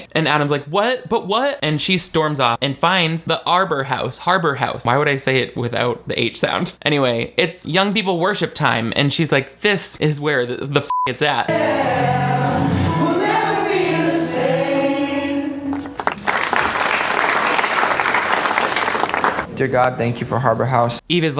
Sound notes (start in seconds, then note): 10.9 beep; 15.6 audience applauding